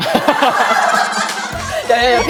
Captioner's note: hahaha